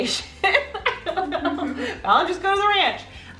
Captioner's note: laughing